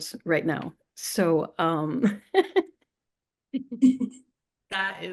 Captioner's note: laughs